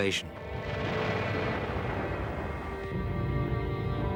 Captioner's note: explosions booming; engines roaring; stirring symphonic music